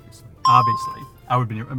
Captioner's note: bell rings